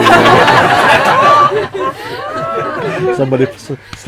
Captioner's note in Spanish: Risas